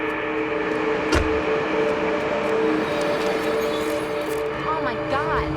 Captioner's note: car door closing